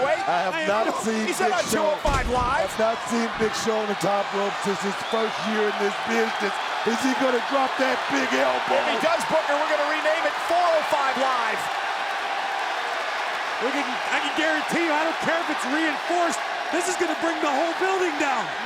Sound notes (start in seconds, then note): 12.3 crowd cheers